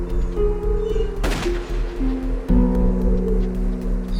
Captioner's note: gunfire